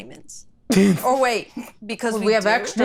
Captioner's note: laughs